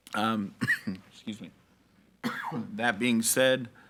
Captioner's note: coughs